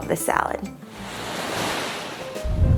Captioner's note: waves murmuring; air whooshing; groovy jazz music